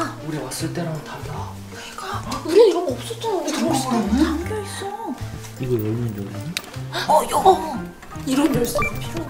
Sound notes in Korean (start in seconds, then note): 5.5 속삭이는 소리; 8.4 탁, 자물쇠 소리